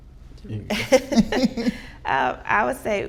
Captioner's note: all laughing